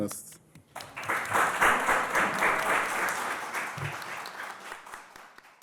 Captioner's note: audience applauding